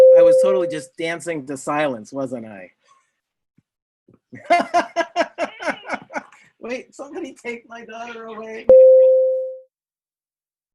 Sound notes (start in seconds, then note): 0.0 bell rings; 4.4 laughs; 8.7 bell rings